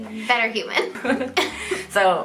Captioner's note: giggling